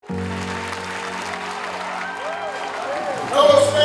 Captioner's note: audience clapping